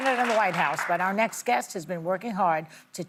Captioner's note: applause